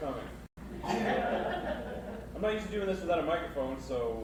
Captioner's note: audience laughs